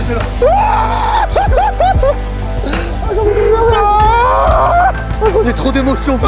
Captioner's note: loud screaming